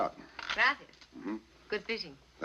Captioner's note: speaking spanish